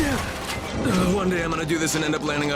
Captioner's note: groan